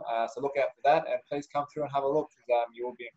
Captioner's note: laughing